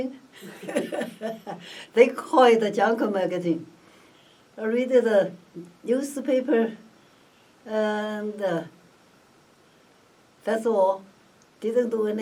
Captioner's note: laughs